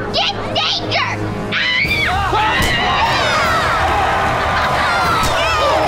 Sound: screaming

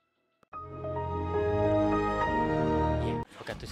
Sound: Windows' startup jingle

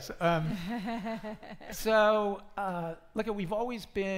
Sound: laughing

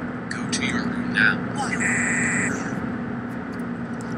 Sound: Rosie cries

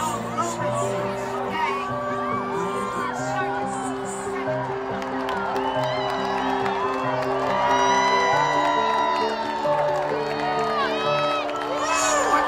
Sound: crowd cheering and clapping

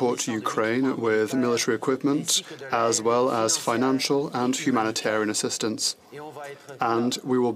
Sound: speaking French

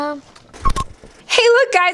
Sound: beep

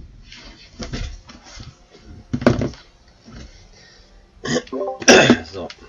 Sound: sounds of someone coming back, clearing of throat

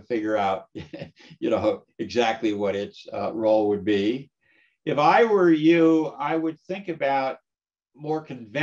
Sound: laugh

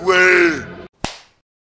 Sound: slap

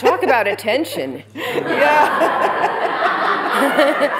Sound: laughter

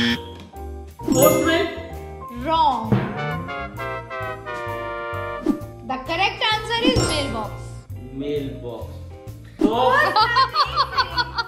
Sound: laughter

